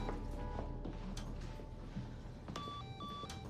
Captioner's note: phone line beeps